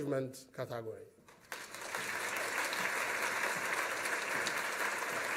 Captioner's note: applause